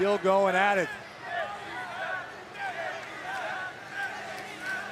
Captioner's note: crowd chanting